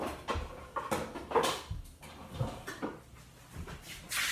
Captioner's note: clattering in background